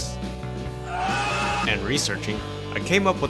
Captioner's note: screaming